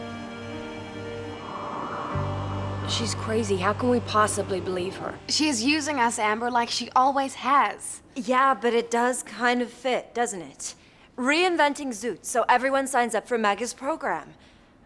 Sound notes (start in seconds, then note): 0.0 slow soft music; 0.6 wind whistling